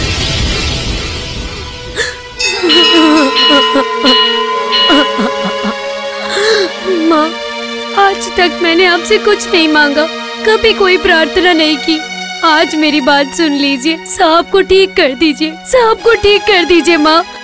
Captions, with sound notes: [Bell rings] Mother, I never prayed to you for anything. I never asked for anything. Please listen to me, mother. Please cure sir. Please cure him.